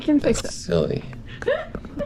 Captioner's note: laughter